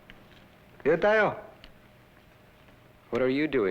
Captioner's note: non-english speech